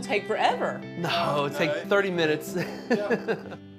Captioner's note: laughs